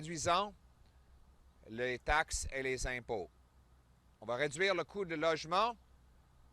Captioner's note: French